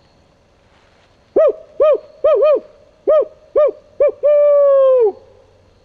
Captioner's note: man imitating owl hoot